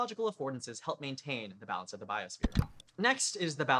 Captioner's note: click